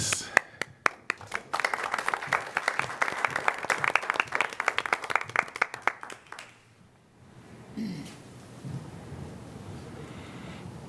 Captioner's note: applause